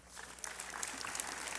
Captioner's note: applause